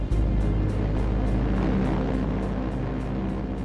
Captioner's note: planes buzzing